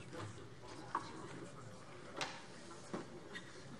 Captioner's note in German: none